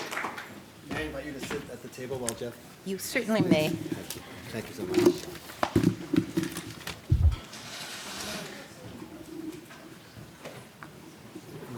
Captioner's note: indistinct chatter